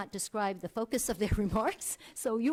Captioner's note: laughs